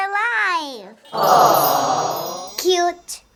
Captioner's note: chime